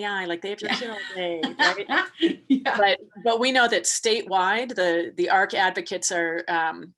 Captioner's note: laughing